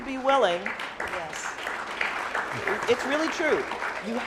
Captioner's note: applauding